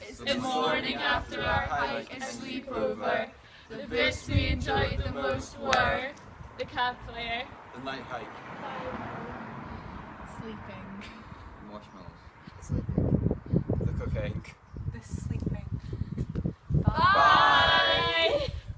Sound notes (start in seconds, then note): none